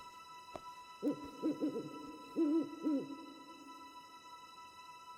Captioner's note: owl hooting